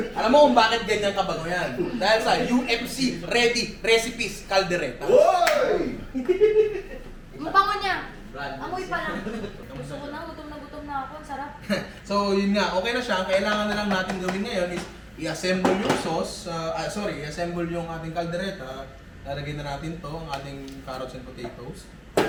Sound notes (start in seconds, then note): 5.1 cheers; 5.1 laughs